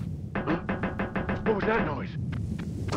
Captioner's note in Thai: ก๊อกๆๆๆ